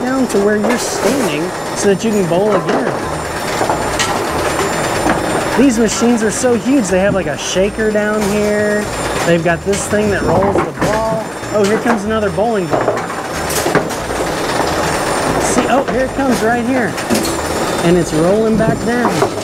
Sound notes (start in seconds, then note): 12.7 bowling ball thuds